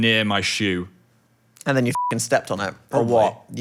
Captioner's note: beeping